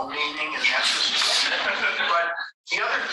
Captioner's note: all laughing